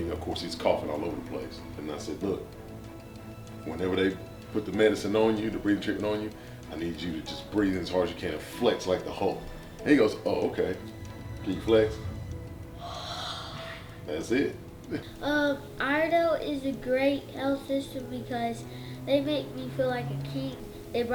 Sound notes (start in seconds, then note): 12.0 exhales; 12.7 inhales